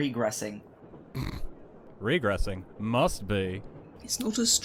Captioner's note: Sirius snorts